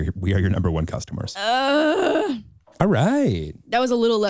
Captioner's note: groan